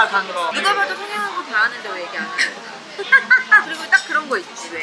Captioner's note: laughing